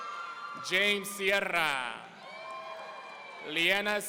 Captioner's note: audience cheering